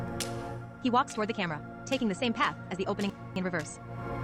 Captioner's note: cane taps echo